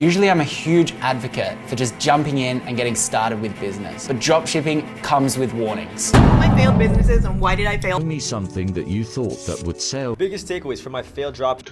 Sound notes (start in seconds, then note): 6.1 drum booming; 8.1 voiceover